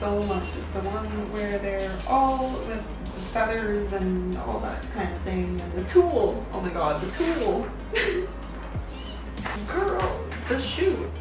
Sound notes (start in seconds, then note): 7.8 laughs; 8.7 squeals